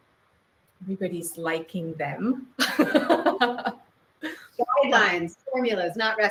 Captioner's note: laughs